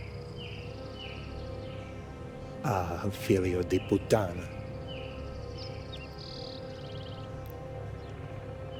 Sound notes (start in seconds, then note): 3.2 Lou speaking in Italian